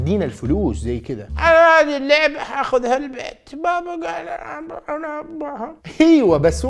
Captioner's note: starts mumbling